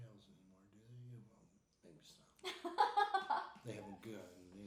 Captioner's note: laughing